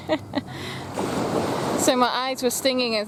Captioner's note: giggles